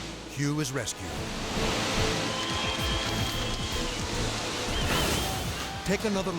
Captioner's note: water whooshing; people cheering